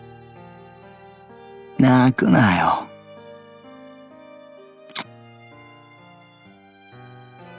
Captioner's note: kiss